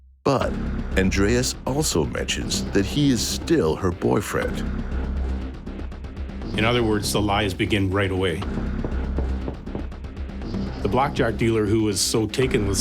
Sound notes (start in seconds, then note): 8.4 knocking